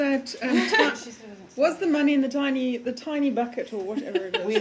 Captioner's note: laughter